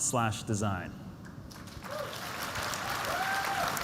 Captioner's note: applause